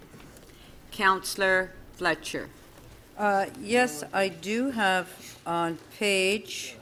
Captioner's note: audio skipping